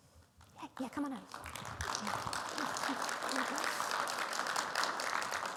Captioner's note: audience applauding